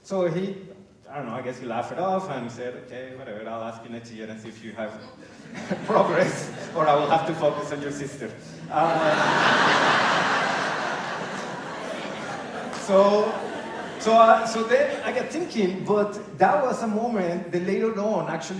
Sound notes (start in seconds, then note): 9.7 laughter